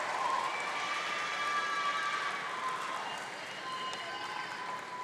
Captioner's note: audience cheering